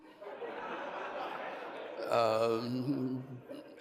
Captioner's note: crowd laughs